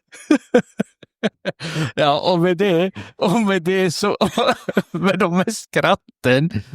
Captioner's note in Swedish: skratt